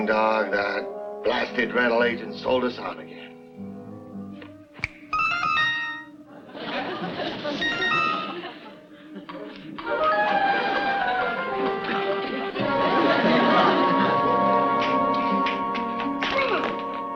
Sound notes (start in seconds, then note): 4.7 finger snaps; 5.1 whimsical chimes; 6.3 audience laughs; 9.7 playful music; 12.6 suspenseful music